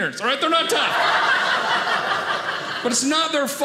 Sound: audience laughing

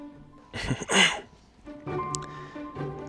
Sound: clears throat

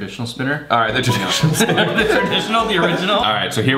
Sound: laughter

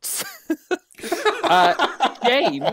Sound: laughter

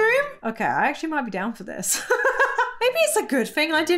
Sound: laughs

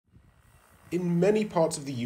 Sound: drone humming

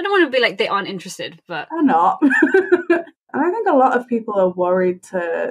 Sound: laughs

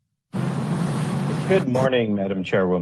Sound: car engine roars

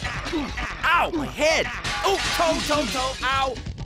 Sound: and other painful grunts

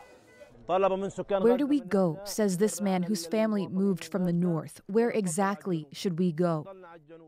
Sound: speaking alternate language

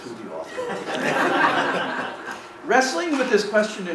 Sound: laughing

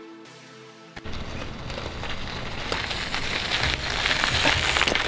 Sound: spokes whiz

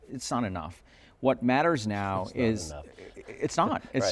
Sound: laughs

